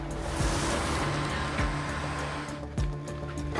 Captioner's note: engine revving